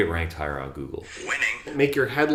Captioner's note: computer Voice